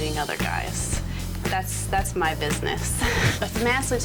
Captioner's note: laughs